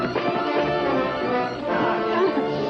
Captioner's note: straining